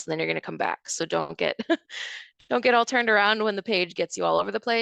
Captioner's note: chuckles